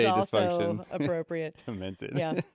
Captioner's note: laughs